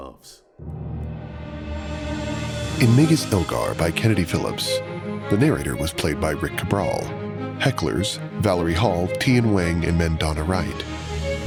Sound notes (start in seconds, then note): none